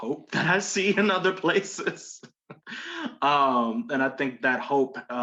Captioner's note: laughs